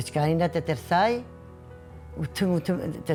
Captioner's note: gentle music; speaking foreign language